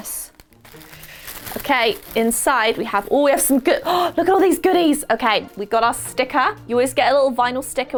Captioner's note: gasp